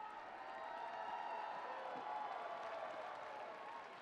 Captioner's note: people cheering